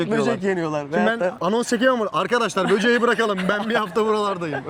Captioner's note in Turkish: kahkaha